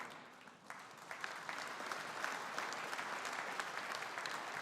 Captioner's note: audience applauding